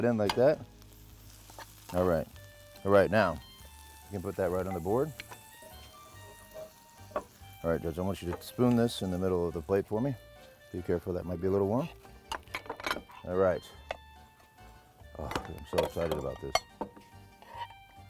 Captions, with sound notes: Put that in like that. (pan sizzles) All right. All right, now, you can put that right on the board. All right, Judge, I want you to spoon this in the middle of the plate for me. Be careful, that might be a little warm. All right. Oh, I'm so excited about this.